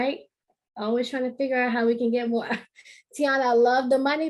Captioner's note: chuckle